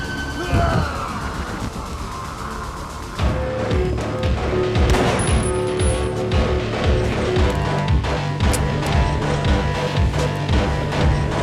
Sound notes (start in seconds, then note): 3.6 intense music; 4.8 pistol fires; 8.4 pistol clicks